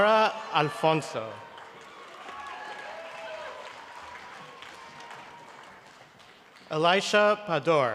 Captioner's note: cheering and applause